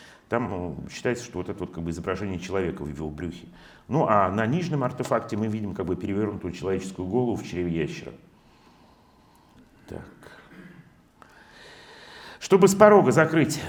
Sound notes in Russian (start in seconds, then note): 10.2 откашливается